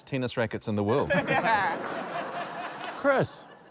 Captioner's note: laughter